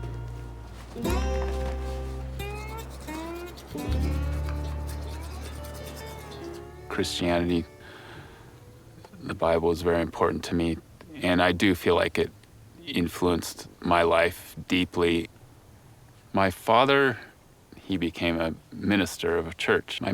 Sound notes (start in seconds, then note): 2.4 brushing teeth